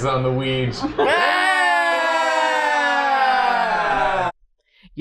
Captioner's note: cheering